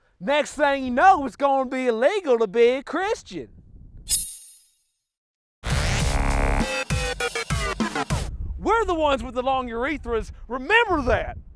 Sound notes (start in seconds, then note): 4.1 metal scraping; 5.7 upbeat music